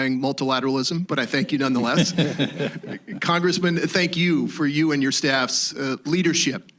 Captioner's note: laughter